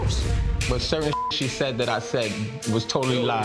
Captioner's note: beep